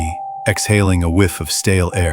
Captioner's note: cell Call